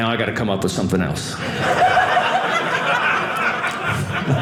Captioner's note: audience laughing